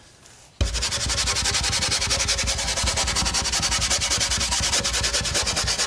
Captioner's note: scratching